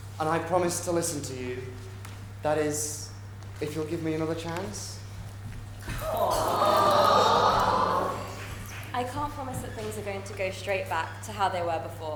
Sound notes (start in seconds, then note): 8.9 audience awws